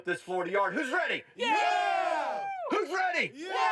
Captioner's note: cheering